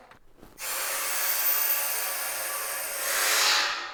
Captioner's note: drill whirring